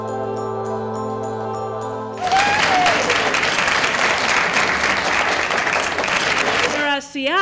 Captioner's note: applause